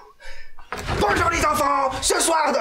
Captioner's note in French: Porte battante